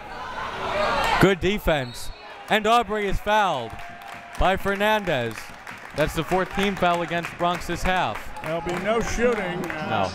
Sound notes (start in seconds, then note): 0.0 crowd members shouting; 1.8 whistle tweeting